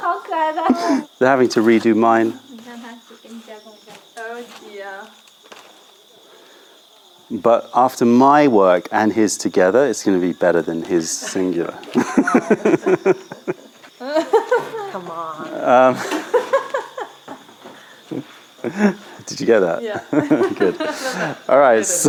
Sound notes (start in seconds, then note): 11.2 laughter